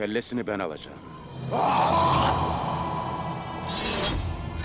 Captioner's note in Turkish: Bağırma sesi; Müzik - Gerilim